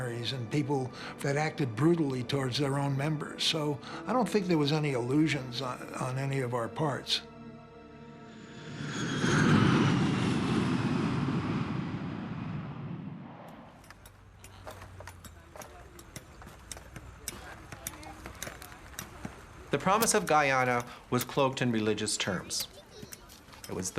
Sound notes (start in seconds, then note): 7.8 plane taking off; 13.8 tools clanking